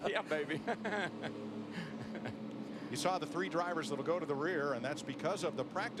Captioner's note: laughter